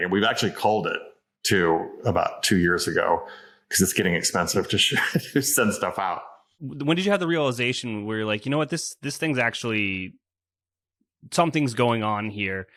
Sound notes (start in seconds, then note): 4.8 laughs